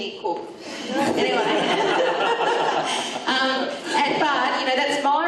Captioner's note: audience laughs